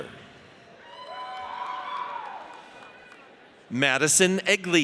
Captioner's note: audience cheers